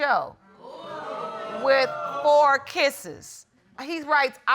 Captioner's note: audience exclaiming